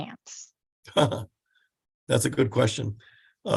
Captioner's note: laughs